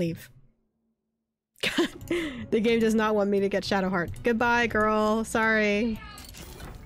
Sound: laughs

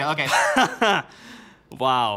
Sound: laughing

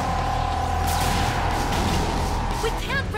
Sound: roaring; electricity crackling

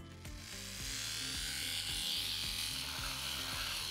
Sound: sander whirs

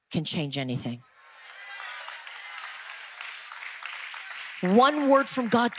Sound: audience applause

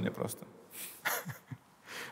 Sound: chuckles

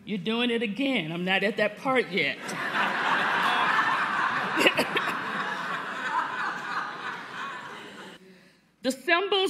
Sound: laughter

